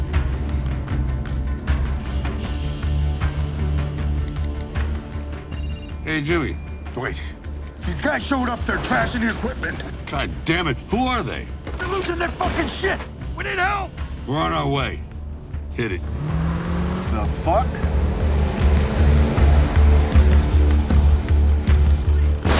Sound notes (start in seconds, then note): 0.2 low suspenseful music continues; 5.5 phone ringing; 15.8 vehicle revving; 18.3 low suspenseful music continues